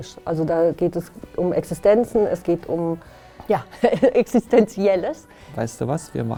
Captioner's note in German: lacht